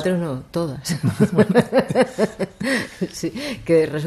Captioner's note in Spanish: risas